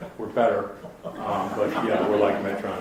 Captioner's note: audience laughs